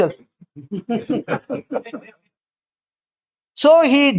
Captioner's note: laughs